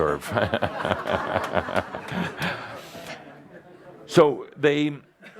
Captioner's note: laughter, Adamus chuckles